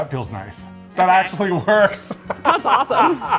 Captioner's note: laughs